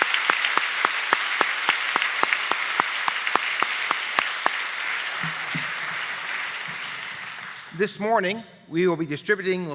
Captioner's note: applause